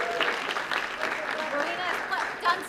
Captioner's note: applause